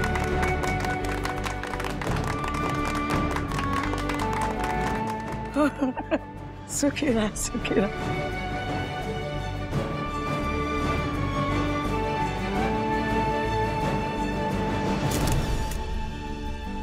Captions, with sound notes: [chuckling] May God bless you. [inspirational music playing] [photo clicking]